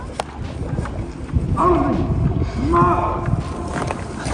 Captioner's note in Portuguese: homem grita